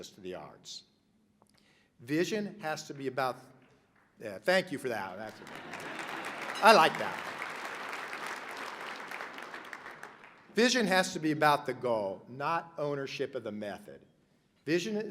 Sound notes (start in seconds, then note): 5.2 laughter, applause; 5.3 person claps